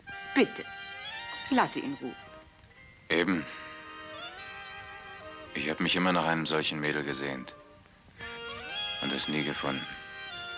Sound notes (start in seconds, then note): none